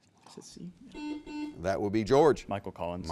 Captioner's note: buzzer beeps